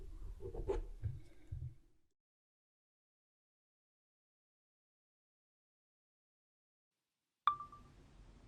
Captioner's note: pen scratching; chime of a phone recorder turning on